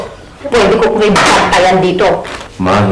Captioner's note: thuds